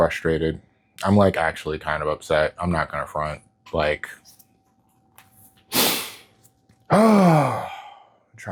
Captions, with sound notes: frustrated. I'm like actually kind of upset. I'm not going to front, like... [sniffs] [disappointed exhale]